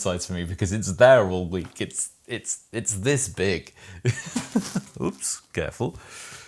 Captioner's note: laughs